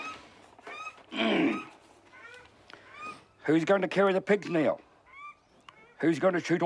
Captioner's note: clears throat